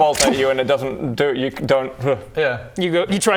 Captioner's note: hrgh